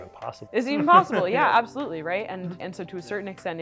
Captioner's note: laughs